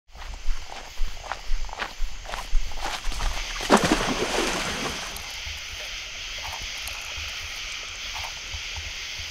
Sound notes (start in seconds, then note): 0.0 footsteps along a riverbank against the racket of crickets and frogs; 3.1 water splashing; 6.0 sounds of insects